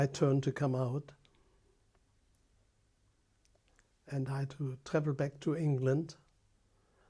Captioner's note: pauses for 3 seconds